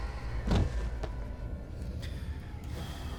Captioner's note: thuds; eerie music playing